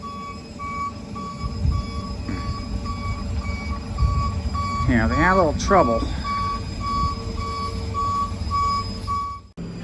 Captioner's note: moving truck backs up